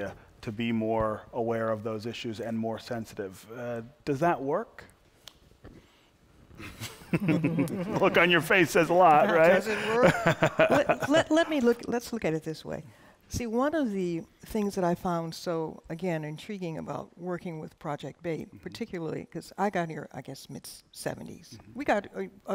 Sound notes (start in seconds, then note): 6.6 laughter